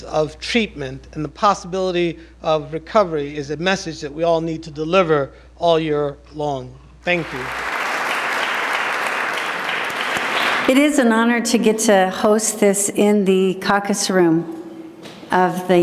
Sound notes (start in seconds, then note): 7.1 applause